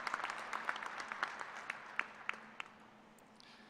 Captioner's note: applause